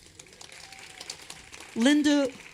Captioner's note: applause